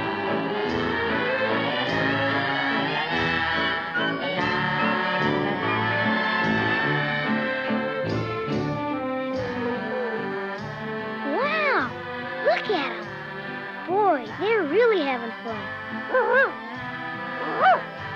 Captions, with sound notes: (Arrow whines) Wow! Look at 'em! Boy, they're really havin' fun. (Arrow barks) (Arrow barks)